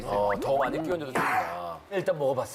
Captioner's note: slurps